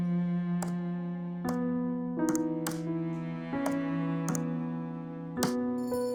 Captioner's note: typing; doorbell chimes